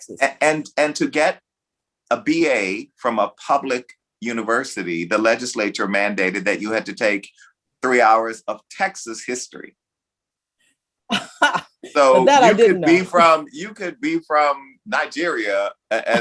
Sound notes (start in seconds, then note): 11.2 laughs